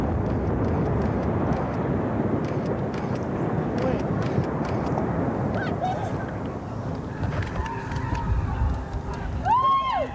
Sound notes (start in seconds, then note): 0.3 camera shutter clicking; 2.9 indistinct chatter; 7.3 cheering